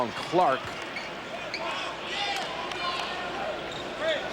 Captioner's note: sfx: crowd roars